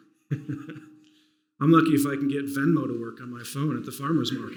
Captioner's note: laughs